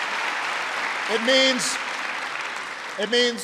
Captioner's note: applause